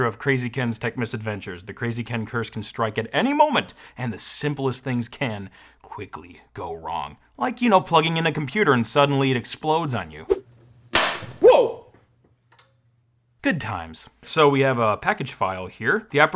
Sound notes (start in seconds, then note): 11.5 something explodes